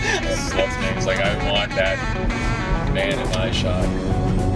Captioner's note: laughs